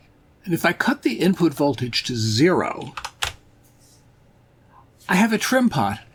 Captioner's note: clatter of keyboard